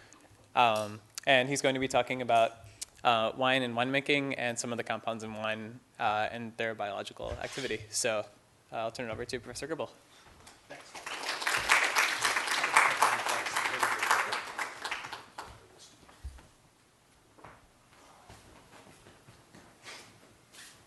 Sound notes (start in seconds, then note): 12.3 applause